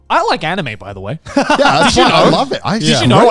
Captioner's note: everyone laughs